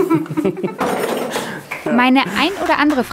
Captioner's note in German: Gelächter